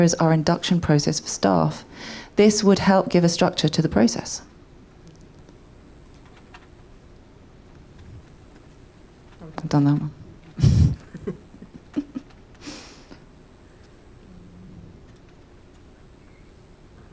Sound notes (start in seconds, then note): 10.4 chuckles